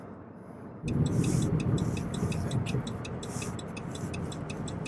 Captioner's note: turn signal blinking